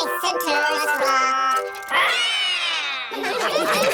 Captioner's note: all roar; all laughing